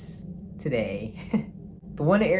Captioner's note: laughs